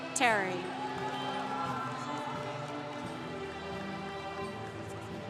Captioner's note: congregation cheering